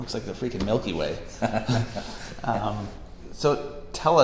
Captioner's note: laughs